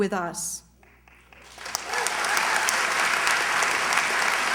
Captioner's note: cheers, applause